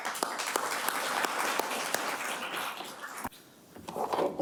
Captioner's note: audience applauding